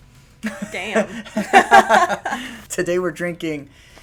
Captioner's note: laughter